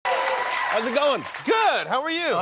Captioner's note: applause